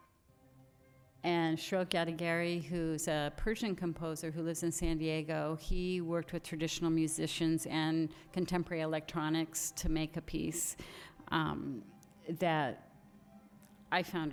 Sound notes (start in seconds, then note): none